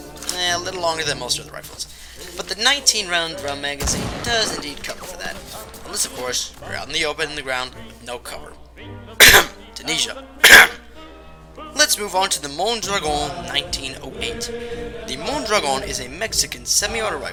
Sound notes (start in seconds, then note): 9.2 clears throat; 10.4 clears throat again